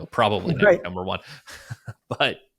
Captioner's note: laughs